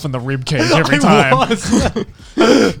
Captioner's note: laughing